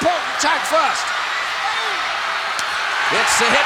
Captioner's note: audience cheering